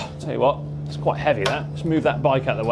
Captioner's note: groans